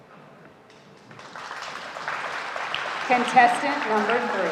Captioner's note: audience applauding